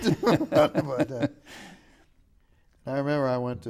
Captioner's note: laughing